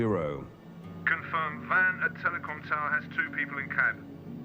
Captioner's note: man over phone